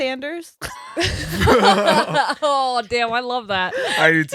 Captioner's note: laughing